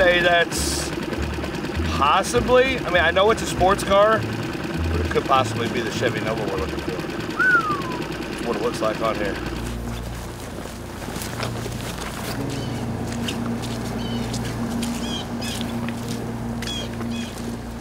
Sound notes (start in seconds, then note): 7.3 whistling; 9.3 grass rustling; 9.6 ominous music; 11.9 birds chirping; 12.5 engine droning